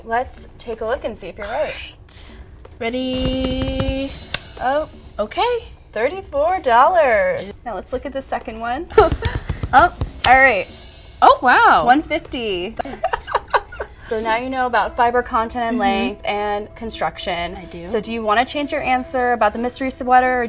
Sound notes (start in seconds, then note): 9.0 hands thudding on her shoulders; 12.8 laughing